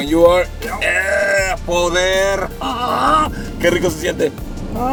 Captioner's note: grunting